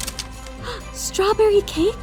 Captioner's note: gasps